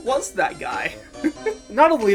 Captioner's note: laughing